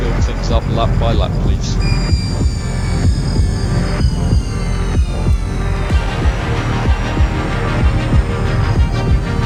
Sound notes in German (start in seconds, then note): 2.6 elektronische Fahrgeräusche; 2.6 sich steigernde Musik